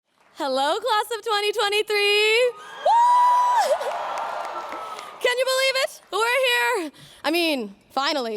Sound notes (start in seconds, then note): 3.2 applause